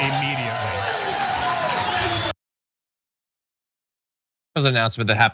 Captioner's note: applause